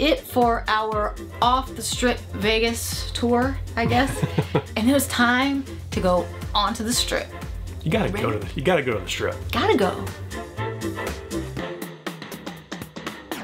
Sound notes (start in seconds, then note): 3.8 chuckles; 10.7 upbeat music